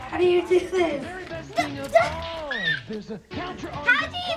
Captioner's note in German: schreit